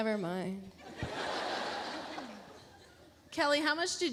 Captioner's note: audience laughs